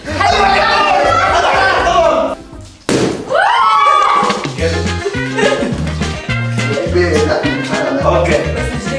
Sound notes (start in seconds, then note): 2.8 balloon pops; 3.3 screaming